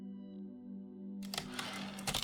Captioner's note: typewriter return slide